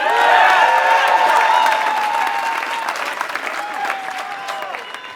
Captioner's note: applause